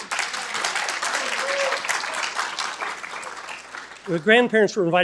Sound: attendees applauding and cheering

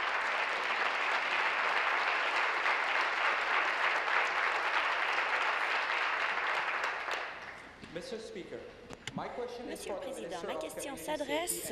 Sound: applause

